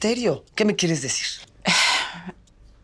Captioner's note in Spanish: suspiro